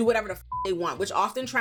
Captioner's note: beep